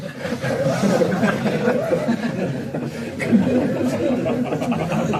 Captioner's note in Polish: śmiech